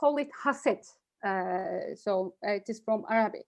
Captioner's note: speaks in Arabic language